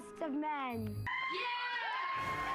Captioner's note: applause